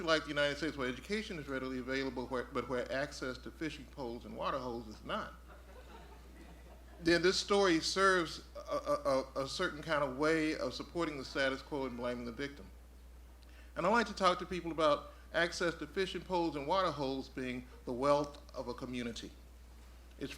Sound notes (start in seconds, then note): 5.4 audience chuckling